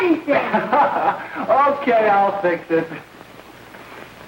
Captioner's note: laughs